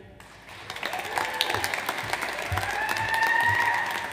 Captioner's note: audience applauds